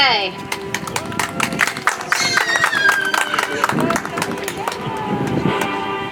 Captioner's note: audience applauds; soft music